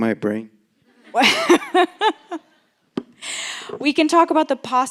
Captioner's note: laughter